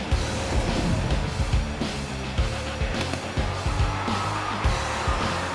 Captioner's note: punches landing